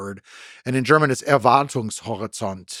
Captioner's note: speaking in German